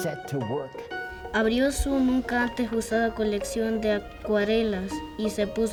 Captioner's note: student speaking Spanish